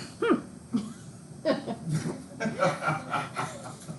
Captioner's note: students laugh